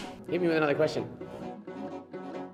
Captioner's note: banging